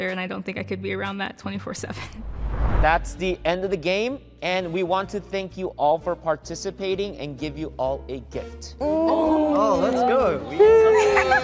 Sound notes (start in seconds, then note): 8.8 contestants make excited noises; 11.2 jazz upbeat music